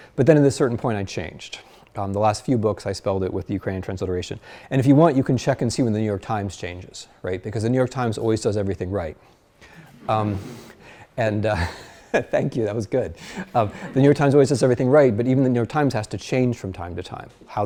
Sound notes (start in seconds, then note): 9.4 class laughs; 13.2 laughs